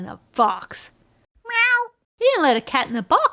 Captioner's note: author imitates cat meow SFX